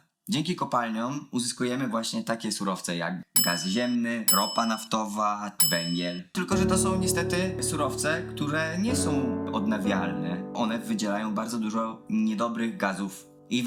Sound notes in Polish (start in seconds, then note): 3.3 dzwonek; 10.4 smutna muzyka